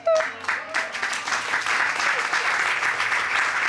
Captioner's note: audience applauding